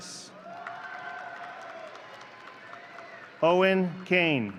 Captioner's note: audience cheering